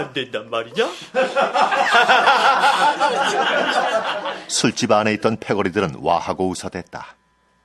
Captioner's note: laughs